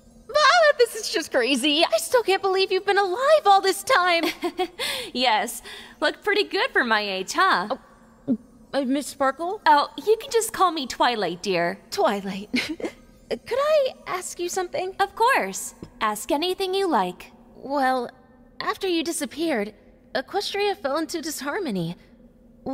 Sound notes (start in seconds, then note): 12.5 chuckles